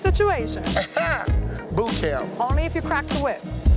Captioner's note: laughing